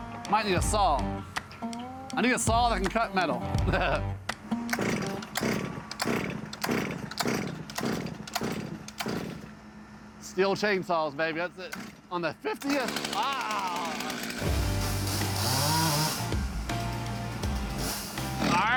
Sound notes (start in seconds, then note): 0.0 upbeat music continues; 3.4 laughs; 6.5 chainsaw sputtering; 12.4 chainsaw starts; 14.4 upbeat music